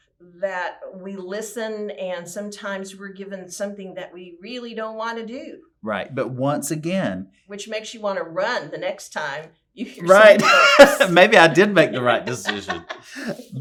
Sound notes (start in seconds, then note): 10.2 laughter